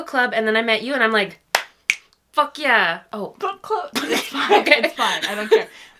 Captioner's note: clap, snap; laughs